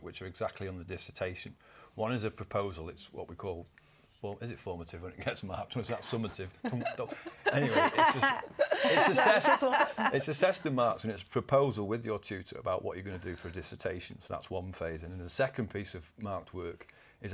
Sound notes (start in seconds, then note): 5.9 laughter